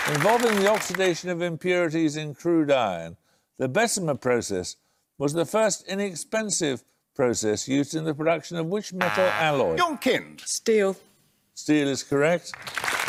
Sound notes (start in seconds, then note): 9.0 buzzer; 12.4 applause